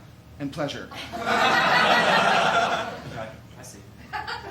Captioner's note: laughter